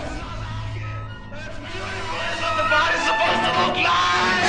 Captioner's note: screaming